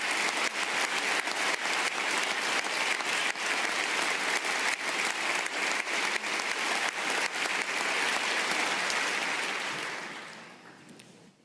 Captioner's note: applause